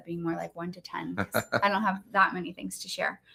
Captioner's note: laughs